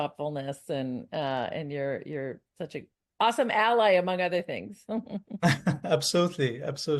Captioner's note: chuckles